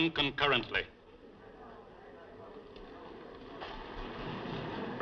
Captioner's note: chattering